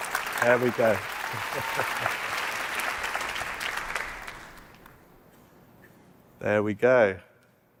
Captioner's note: applause